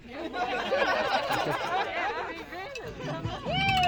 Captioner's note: crowd laughing and cheering